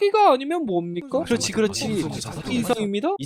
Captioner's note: murmurs in the courtroom